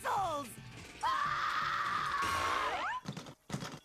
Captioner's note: screaming